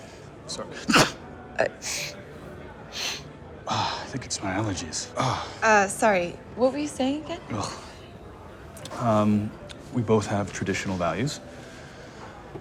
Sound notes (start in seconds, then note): 0.8 sneezes; 2.9 sniffing